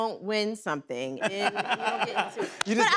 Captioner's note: laughter